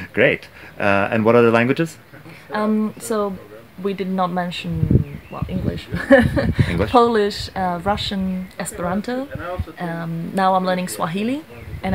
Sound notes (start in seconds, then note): 5.8 laughs